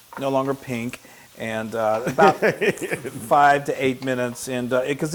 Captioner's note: laugh